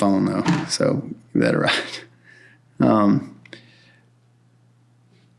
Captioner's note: chuckles